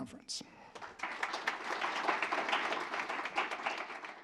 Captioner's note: applause